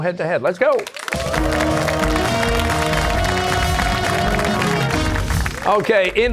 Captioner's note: cheers and applause